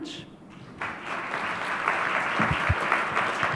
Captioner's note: clapping